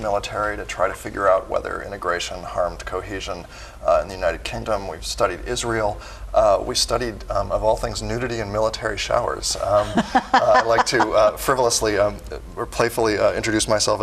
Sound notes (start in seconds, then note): 9.7 laughing